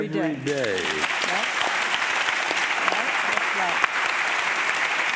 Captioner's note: audience applauding